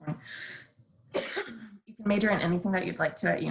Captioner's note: coughing